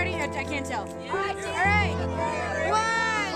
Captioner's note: cheering